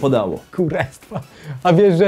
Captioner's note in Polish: Śmiech Antka